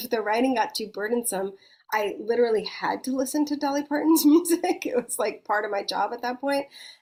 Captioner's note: chuckles